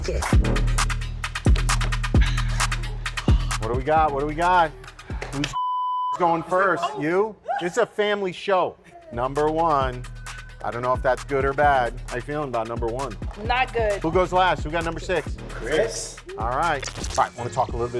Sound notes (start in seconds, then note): 0.0 upbeat techno music; 5.6 beeps